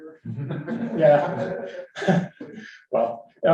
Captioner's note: audience laughs